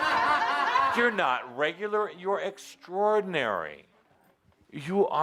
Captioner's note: laughter; more laughter